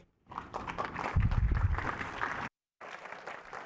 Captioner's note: applause